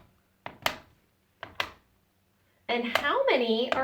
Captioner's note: solid tapping